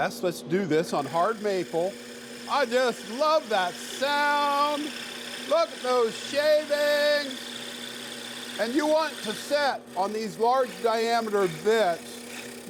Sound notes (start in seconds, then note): 7.3 high-pitched whirring